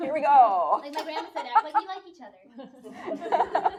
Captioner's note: laughing